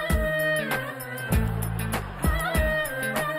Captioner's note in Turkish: Gülme efekti